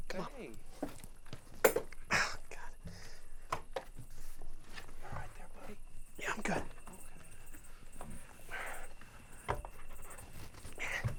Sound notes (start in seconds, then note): 3.3 window clanking; 8.3 Johnny gasping